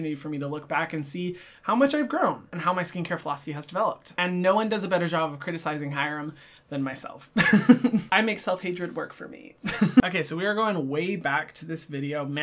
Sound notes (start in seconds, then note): 7.6 laughs